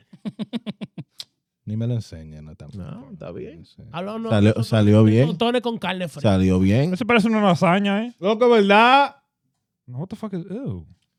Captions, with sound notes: (Speaking In Foreign Language) (Laughing) (Speaking In Foreign Language) What the fuck is, ew.